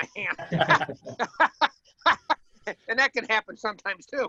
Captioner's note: laughs